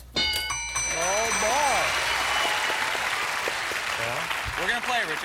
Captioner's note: applause